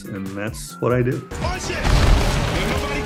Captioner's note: explosion